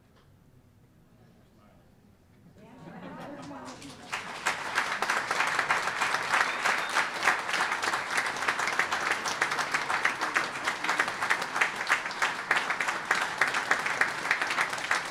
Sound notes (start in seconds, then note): 4.2 all applauding